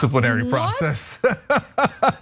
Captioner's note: laugh